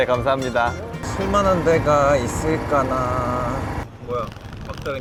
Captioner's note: Classic guy-in-his-30s thing: talks with a sing-song tone